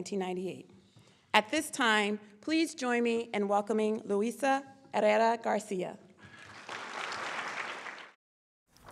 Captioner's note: claps